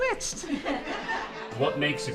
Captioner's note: audience laughing